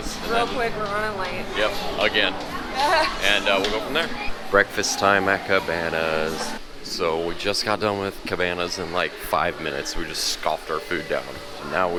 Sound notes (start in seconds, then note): 2.8 laughs